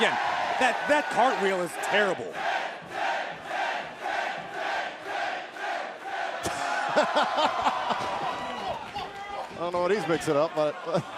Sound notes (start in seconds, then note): 3.0 fans chanting; 6.5 laughter